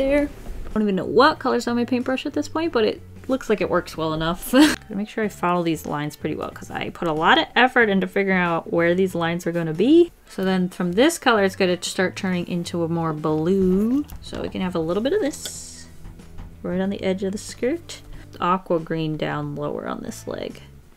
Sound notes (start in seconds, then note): 4.5 laughs